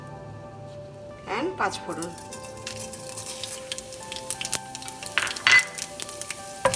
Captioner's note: oil sizzling